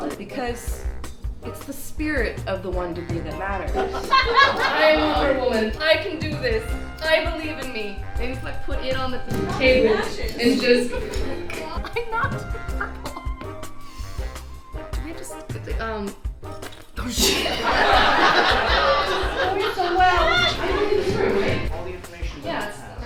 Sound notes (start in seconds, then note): 17.2 audience laughs